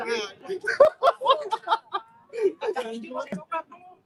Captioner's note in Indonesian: tertawa